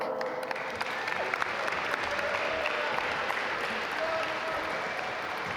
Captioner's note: audience applaud